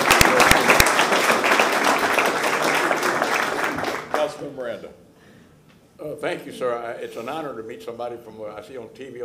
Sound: applause

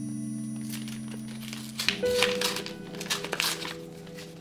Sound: paper rustling

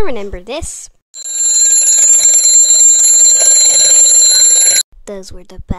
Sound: alarm Clock Ringing

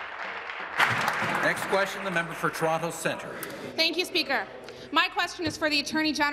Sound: applause

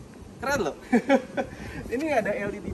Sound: laughing

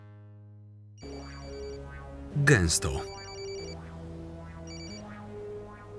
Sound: cellphone rings

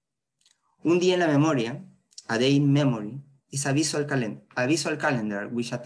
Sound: spanish

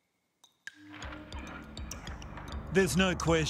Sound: water dripping ominously

